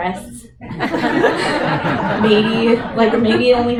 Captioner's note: laughter